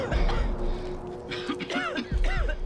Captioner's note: coughing